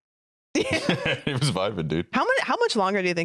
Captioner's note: laughs